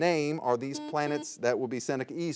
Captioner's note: buzzer beeps